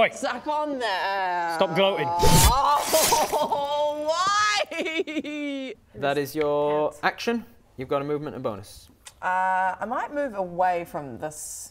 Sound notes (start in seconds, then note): 2.2 stab